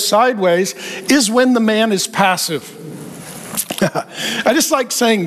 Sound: chuckling

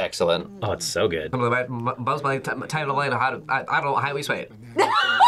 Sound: stutters; laughs

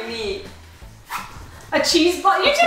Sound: zipper zipping

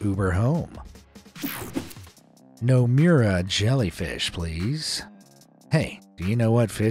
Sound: screen wipe whooshes

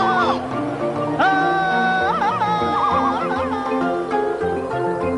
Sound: Tarzan yells

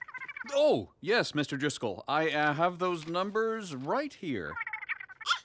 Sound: cooing

